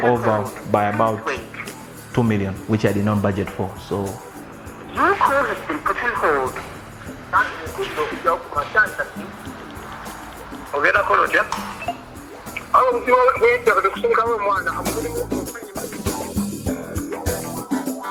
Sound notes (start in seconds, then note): 5.0 electronic Voice; 7.4 voice distorts through phone speaker; 12.8 speaks foreign language through phone; 15.5 funky music